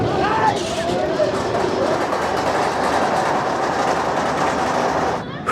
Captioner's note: lift hill chain clacking